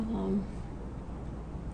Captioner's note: voiceover